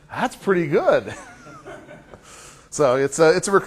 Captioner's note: laughter